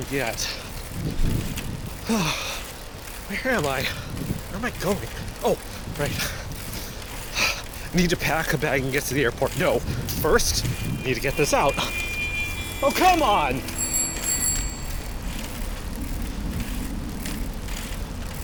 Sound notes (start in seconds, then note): 10.3 car horn honks; 13.9 Kyle rings bike bell